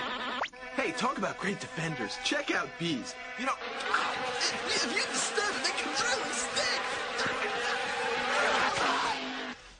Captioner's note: stammers, exclaims